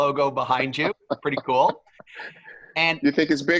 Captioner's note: laugh